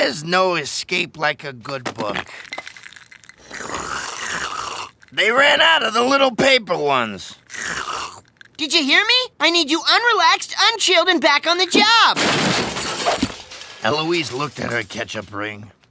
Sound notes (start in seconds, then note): 4.1 slurping; 12.1 crashing